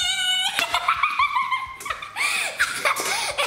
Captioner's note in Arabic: يضحك